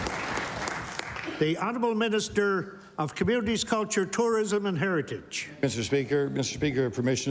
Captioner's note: applause